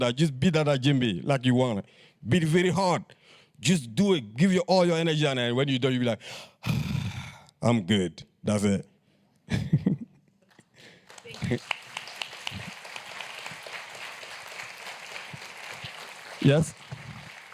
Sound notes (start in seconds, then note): 6.4 sighs; 10.4 applause